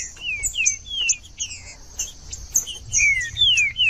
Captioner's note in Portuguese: trinca ferro cantando